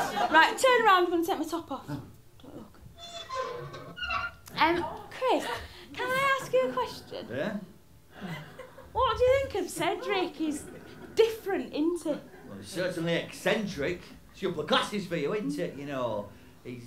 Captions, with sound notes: Right, turn around, I'm going to take my top off. (METALLIC CREAKING) Um, Chris, can I ask you a question? Yeah? What do you think of Cedric? He's... ...different, in't he? Certainly eccentric. It's the upper classes for you, in't it?